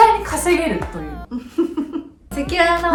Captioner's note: evil laugh